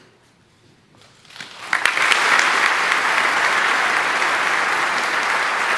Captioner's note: audience applauding